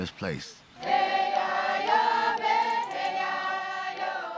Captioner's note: chanting